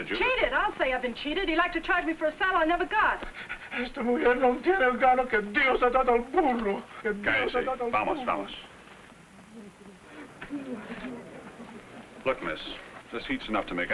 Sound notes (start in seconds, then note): 4.0 Juan speaking in foreign language; 7.3 speaking in foreign language; 10.9 crowd chattering